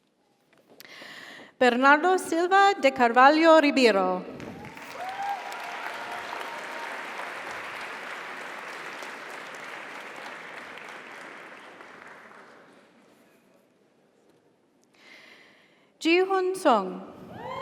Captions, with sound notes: Bernardo Silva De Carvalho Ribeiro. (audience applauds) (audience cheers) - Congratulations. - Thank you. - You're welcome. - Jihoon Sung.